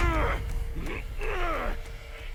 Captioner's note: nonverbal grunt as interjection